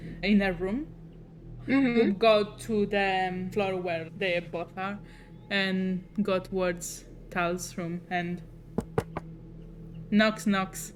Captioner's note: knocking